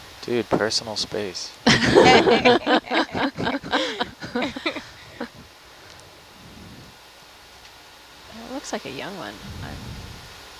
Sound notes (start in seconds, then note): 1.6 all laughing